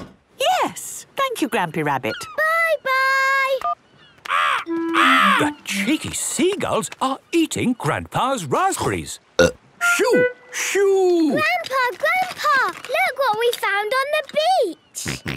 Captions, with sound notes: - Yes, thank you, Grampy Rabbit. - Bye, bye! (seagulls cries) - The cheeky seagulls are eating Grandpa's raspberries. (burp) - Shoo! Shoo! - Grandpa! Grandpa! Look what we found on the beach!